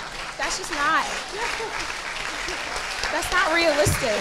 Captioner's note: audience laughing